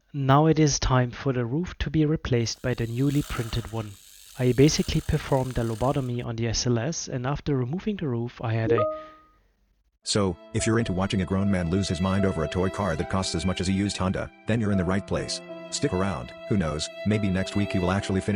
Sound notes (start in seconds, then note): 8.7 Teams notification chime